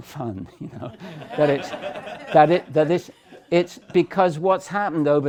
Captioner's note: laughter